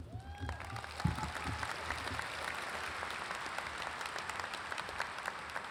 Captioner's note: audience applauds and cheers